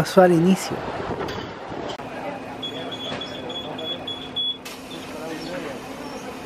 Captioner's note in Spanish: sonido de apertura de puertas